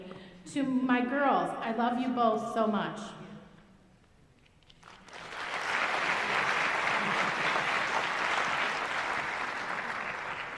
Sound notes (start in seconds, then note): 4.7 applause